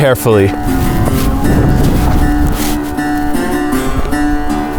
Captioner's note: wind whooshing